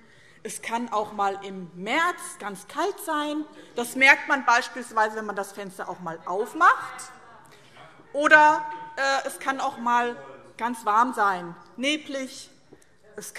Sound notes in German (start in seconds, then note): none